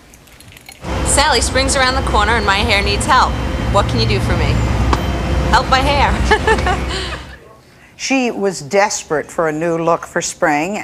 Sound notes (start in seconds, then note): 6.2 chuckling